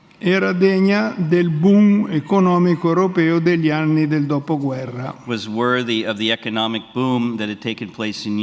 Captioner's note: speaks in Italian